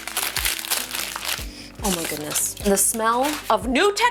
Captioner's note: plastic rustling; sniffs